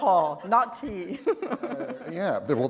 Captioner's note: chuckle